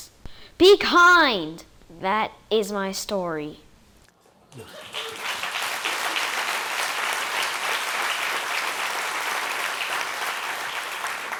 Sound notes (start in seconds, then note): 4.6 applause